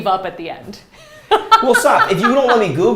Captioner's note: laughs